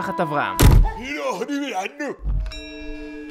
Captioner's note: japanese gibberish